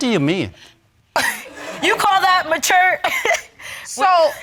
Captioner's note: chuckling